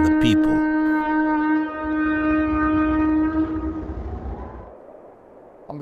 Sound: shofar trumpeting

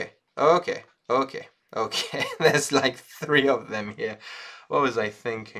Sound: laughs

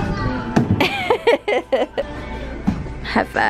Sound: laughs

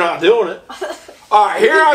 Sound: assistant giggles

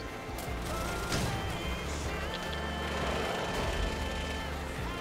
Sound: war noises

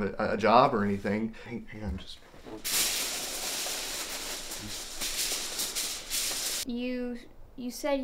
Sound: foil rummaging

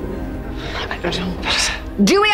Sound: whispering

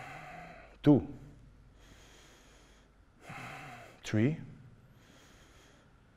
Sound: breathing slowly

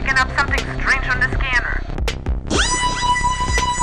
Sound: creepy alien sounds

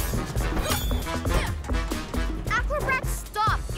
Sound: upbeat music; grunts

